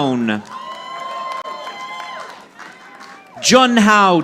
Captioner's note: audience applauding